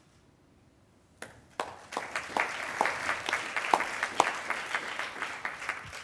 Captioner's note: attendees applauding